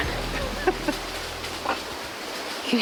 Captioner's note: laughs